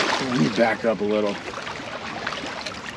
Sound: fish splashing

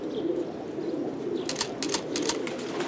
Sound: camera clicks

